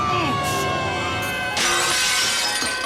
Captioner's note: Tuppy shouts